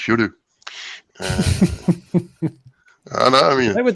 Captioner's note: laughs